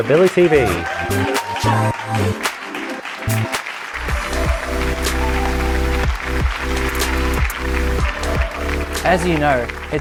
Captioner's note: cheers and applause